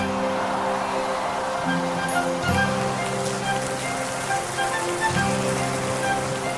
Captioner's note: waves washing on shore; crowd cheering